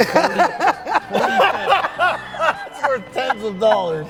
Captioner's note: all laughing